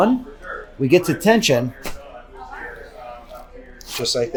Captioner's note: neck cracks